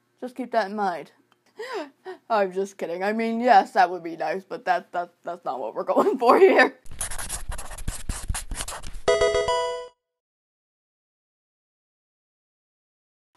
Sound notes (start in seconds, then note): 6.8 marker scratching; 9.0 electronic video game sound